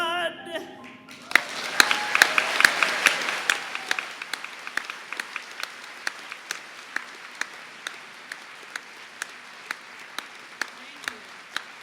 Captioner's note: applause